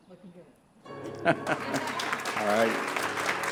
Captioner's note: laughs; applause